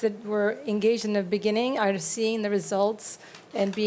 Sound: none

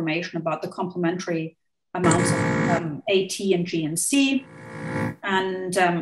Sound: audio blurs

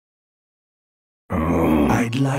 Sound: groans

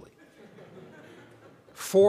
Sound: audience laughing

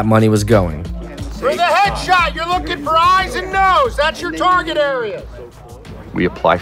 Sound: shouting

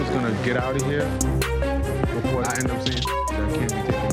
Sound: beep

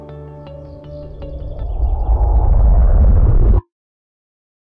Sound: whirling sound

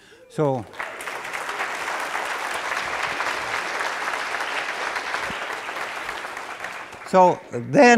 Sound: applause

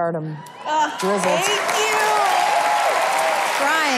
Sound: clapping

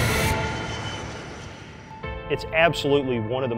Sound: airplane engine revving

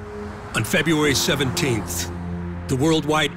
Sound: vehicles whooshing

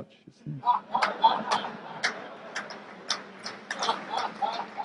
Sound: group laughs

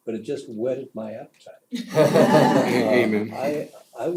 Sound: laugh

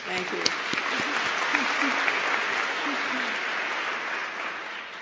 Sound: applause

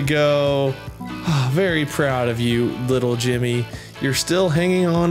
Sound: sigh

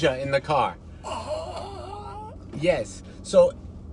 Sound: screams quietly

